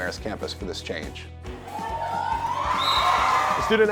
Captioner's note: cheers